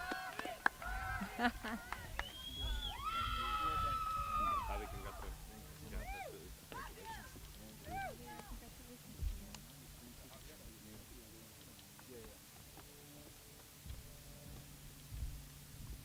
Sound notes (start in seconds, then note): 3.6 applause